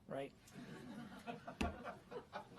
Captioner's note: laughter